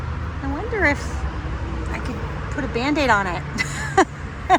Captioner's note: laughs